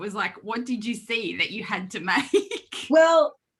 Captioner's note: laughs